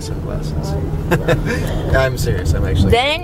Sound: laughs

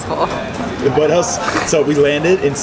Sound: laughing

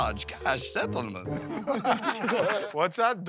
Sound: laughter

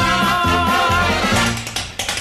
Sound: taps

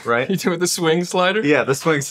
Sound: laughing

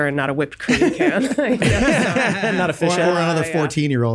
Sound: group laughs

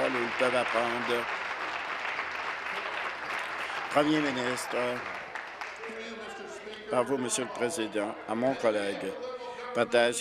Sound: applause

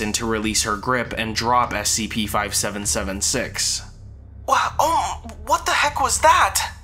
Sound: shrieks

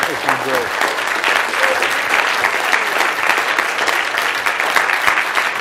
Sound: applause

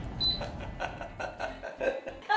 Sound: chuckles

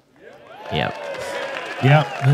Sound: applause

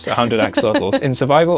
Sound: laughs

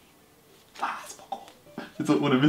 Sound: whispering

